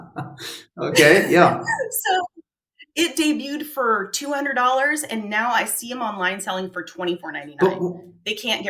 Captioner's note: both laugh